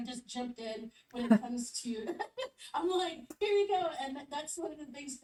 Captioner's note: chuckles